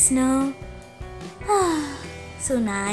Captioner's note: sighs happily